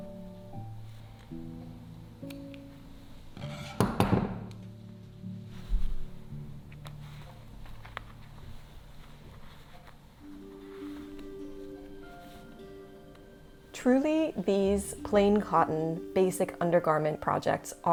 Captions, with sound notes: (scissors thud) (fabric rustling) Truly, these plain cotton basic undergarment projects